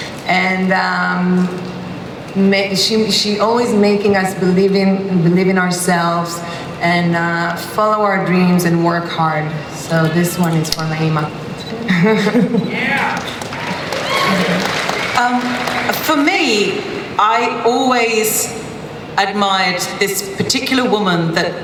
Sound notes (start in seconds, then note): 11.8 laughter; 12.8 audience cheering and applause